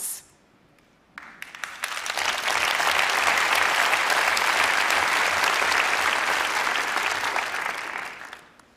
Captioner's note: applause